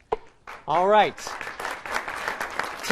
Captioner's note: applause